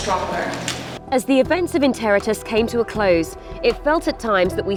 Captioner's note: voiceover